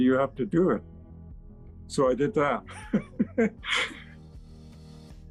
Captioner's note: laughing